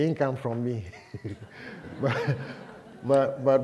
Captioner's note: laughter